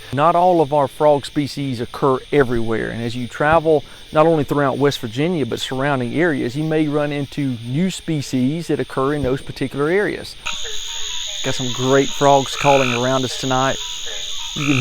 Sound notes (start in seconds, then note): 10.8 frog calls